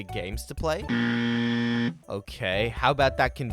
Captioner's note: buzzer sound